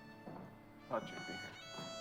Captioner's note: knock on door